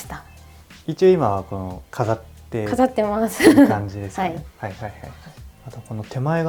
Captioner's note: laughter